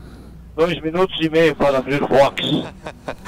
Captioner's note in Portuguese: vóz de homem